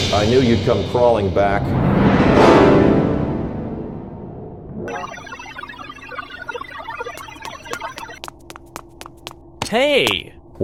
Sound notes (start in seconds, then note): 4.9 energy sounds